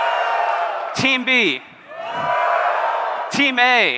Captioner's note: cheering